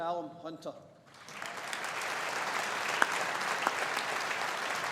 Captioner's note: audience applauding